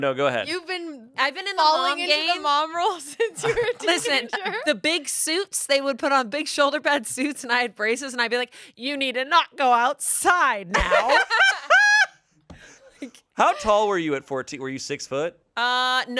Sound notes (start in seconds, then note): 10.7 everyone laughs